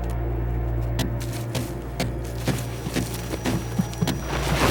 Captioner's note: pounding